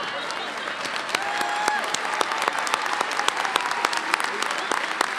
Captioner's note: audience applauding